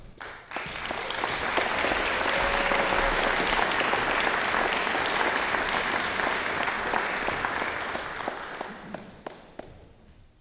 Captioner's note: applause